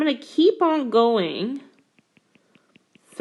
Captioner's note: keyboard Tapping